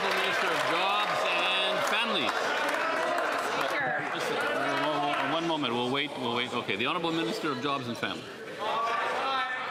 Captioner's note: some Applause